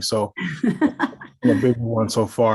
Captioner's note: laughing